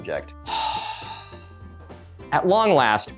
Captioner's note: sighs